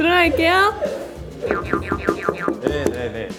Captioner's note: knocking hard as she can